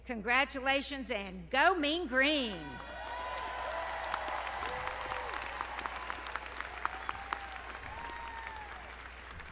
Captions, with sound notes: Congratulations, and go Mean Green. (audience cheering) (audience clapping)